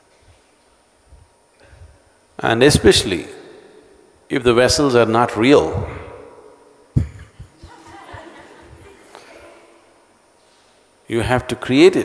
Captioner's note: laughter; 笑聲